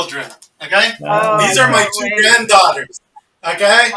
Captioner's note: everyone exclaiming